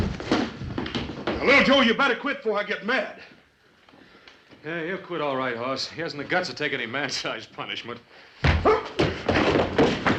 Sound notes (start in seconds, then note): 8.4 groans; 8.4 thud